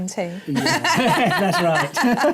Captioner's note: laughter